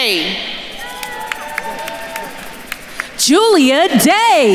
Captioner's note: attendees cheering and applauding